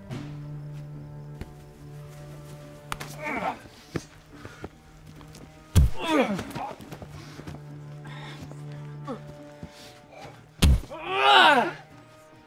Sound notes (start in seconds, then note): 4.1 both grunt; 7.0 grunts; 10.9 wails